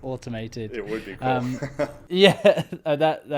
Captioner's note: laughing